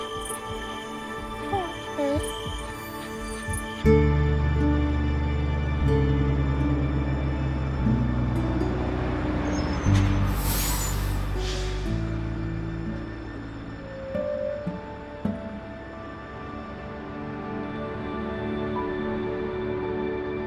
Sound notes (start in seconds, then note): 0.0 whining; 0.2 gentle music; 8.0 bus engine revving; 10.2 air hisses; 14.3 poignant music